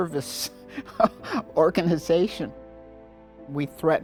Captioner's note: chuckles